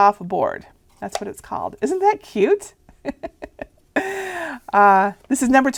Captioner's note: laughing